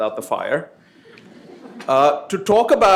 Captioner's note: laughter